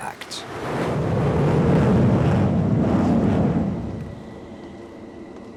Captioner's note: airplane engines roaring